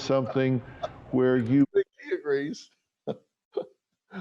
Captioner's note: laughs